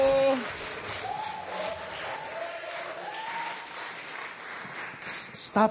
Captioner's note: cheering, applause